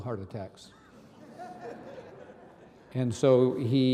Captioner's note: audience laughing